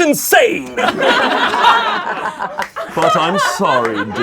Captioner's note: laughing